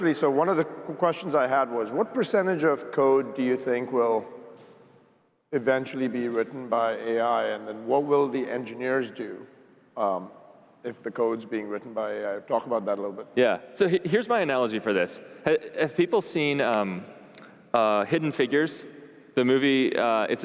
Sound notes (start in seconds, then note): none